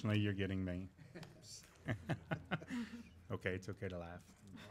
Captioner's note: laughing